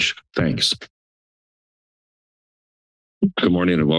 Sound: silence

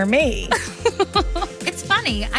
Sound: Brynn laughs

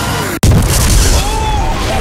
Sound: booommmm!

